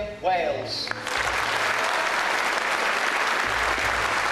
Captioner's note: voiceover; applause